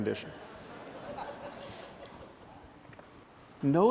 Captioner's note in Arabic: ضحك